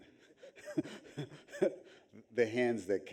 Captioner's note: audience chuckles